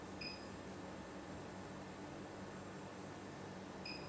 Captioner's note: table beeping